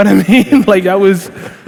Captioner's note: laughing